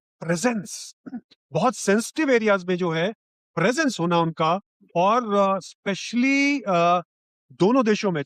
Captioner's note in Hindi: गला साफ़ करने की आवाज़